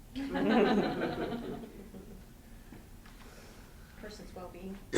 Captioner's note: students laugh